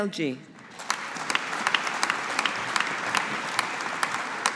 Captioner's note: audience applauding